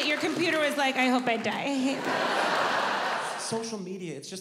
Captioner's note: audience laughs